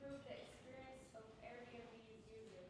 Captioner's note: none